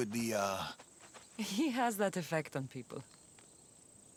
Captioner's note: laughing